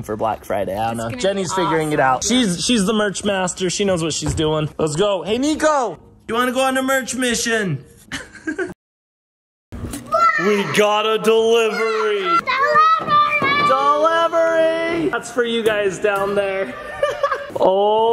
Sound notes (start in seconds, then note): 9.0 laughs; 12.2 kids shouting; 16.6 laughs